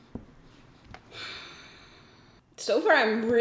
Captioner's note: sighs